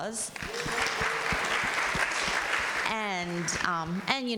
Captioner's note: audience applauding